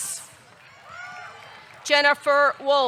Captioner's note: audience cheering